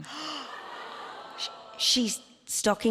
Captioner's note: Myf gasps; audience groans